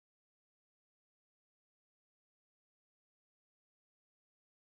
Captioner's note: none